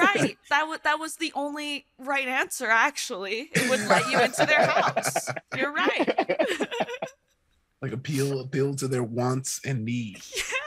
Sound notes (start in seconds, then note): 3.5 all laughing